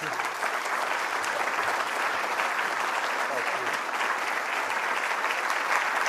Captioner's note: applause